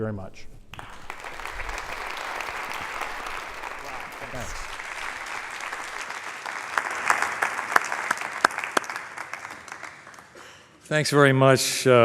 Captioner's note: applause